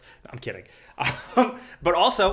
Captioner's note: chuckles